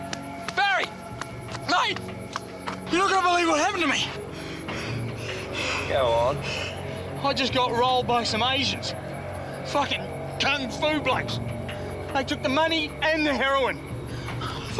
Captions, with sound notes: - Barry, mate, you're not gonna believe what happened to me. (panting) - Go on. - I just got rolled by some Asians, fucking kung fu blokes. They took the money and the heroin.